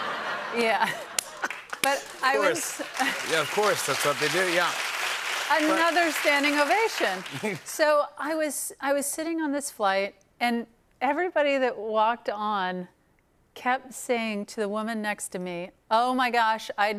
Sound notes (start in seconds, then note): 4.6 applause